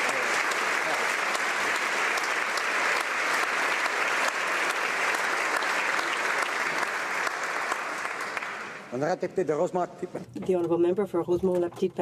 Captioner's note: applause